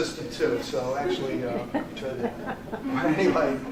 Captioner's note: laughter